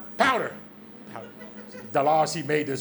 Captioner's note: audience laughs